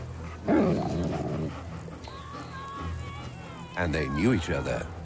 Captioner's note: wolves growling